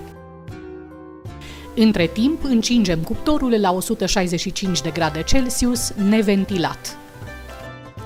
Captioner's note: static